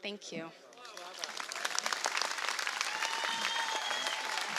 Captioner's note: applause